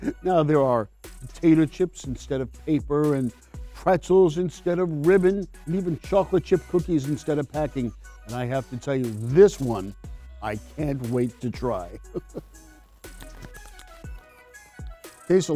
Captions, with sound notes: Now there are potato chips instead of paper and pretzels instead of ribbon, and even chocolate chip cookies instead of packing. And I have to tell you, this one I can't wait to try. (chuckles) (upbeat cheerful music)